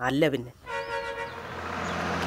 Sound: bus horn

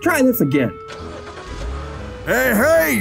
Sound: engine starts

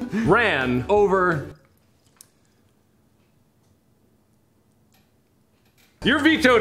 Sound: silence

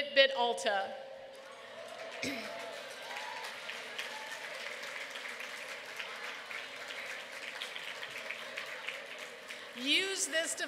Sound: applause

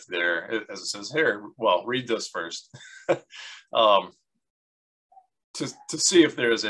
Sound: laughs

